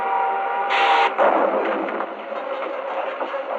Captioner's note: explosion booming